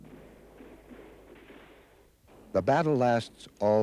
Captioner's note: bullet chirps; guns pop